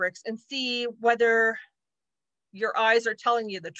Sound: none

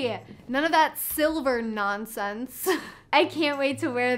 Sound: chuckles

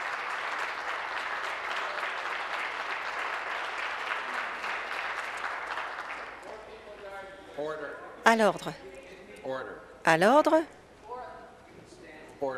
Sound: some Applause

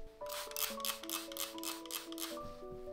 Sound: hissing of spray bottle

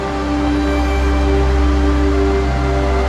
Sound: stream flowing

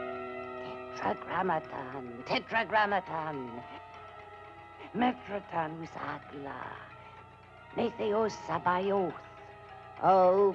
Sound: non-english speech

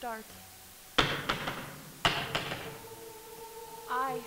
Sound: banging

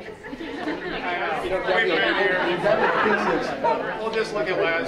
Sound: group laughing

